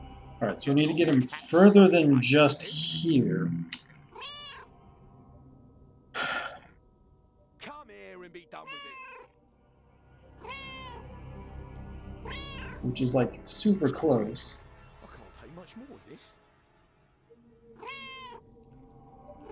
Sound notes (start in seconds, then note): 4.1 Hodge meows; 6.1 sighs; 8.6 Hodge meows; 10.2 Hodge meowing; 17.7 Hodge meowing